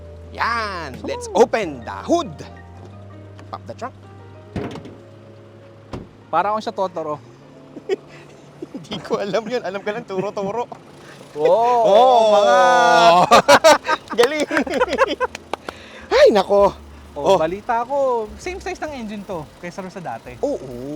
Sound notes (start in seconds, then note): 4.5 door thuds; 11.3 both exclaiming; 15.5 both laughing